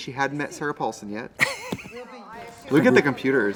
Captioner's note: Katya laughs